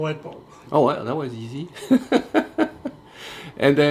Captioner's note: laughter